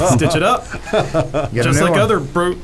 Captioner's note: laughs